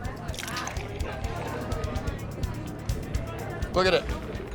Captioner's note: liquor sloshing